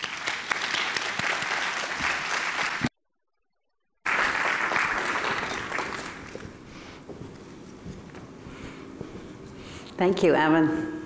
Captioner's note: applauding